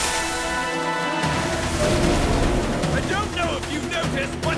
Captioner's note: triumphant music; shield whooshing